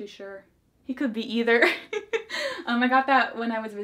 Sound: laughs

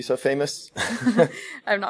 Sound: laughter

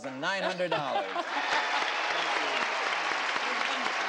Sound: applauding

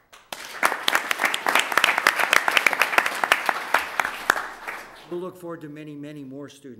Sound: applause

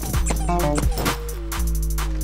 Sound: punches landing; upbeat music; computer beeps

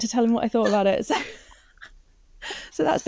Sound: all participants laugh

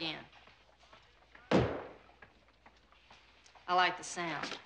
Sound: stamp pounding

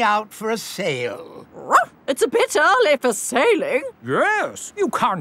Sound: barks

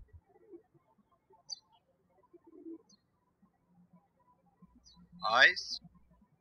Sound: birds chirping

